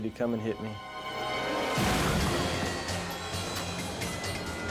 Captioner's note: jet ski thuds; dramatic music